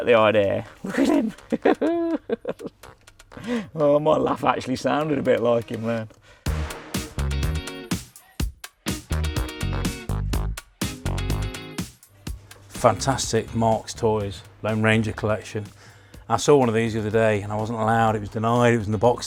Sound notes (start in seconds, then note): 0.7 laughs; 6.3 upbeat music